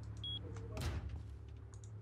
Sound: door slams

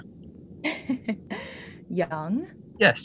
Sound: laughing

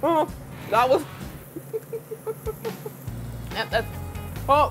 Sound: laughing

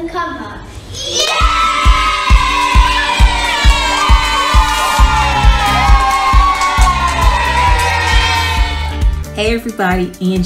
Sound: cheering and clapping!

